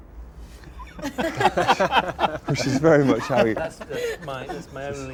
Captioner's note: all laugh